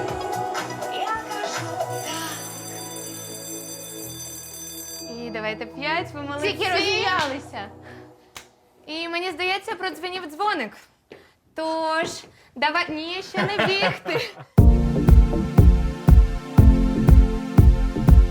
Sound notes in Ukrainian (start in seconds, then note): 2.0 лунає дзвінок